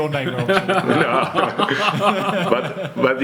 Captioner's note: laughs